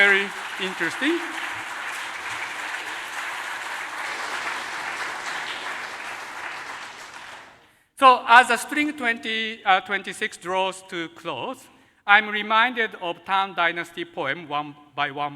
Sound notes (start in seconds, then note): 8.0 applause